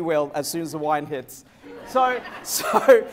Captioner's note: laughter